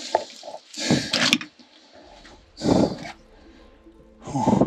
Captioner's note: heavy breathing